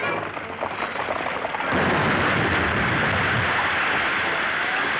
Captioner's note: explosion